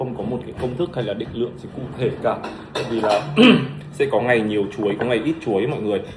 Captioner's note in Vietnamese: hắng giọng